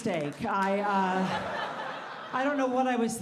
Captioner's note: audience laughing